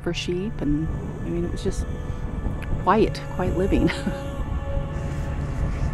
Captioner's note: chuckles